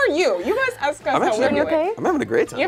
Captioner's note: overlapping chattering